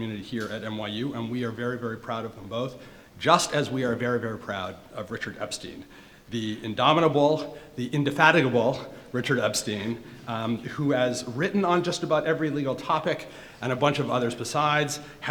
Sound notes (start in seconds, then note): none